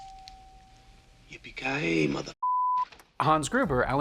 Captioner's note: beep